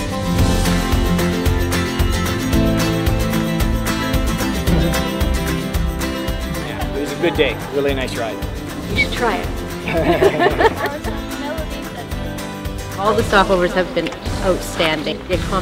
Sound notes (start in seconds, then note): 9.7 laughing